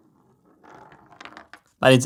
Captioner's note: marble rolls